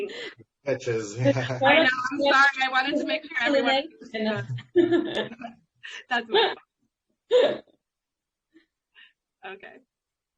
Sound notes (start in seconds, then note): 1.2 chuckles; 3.8 speaks faintly; 4.3 laughs